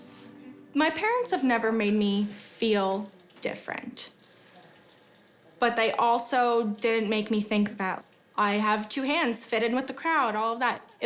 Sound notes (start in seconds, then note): none